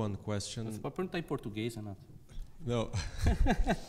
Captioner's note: speaks in foreign language; chuckles